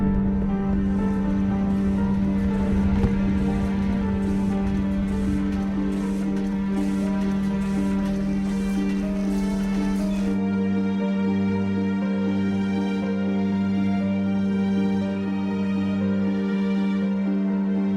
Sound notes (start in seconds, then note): 1.8 machinery chugging